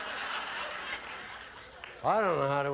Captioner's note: audience laughing